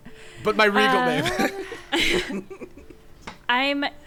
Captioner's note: players laughing